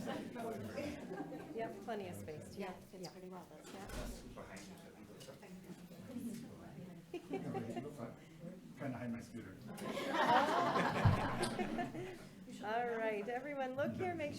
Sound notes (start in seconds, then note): 10.0 everyone laughing